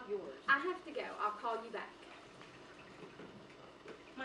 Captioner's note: water running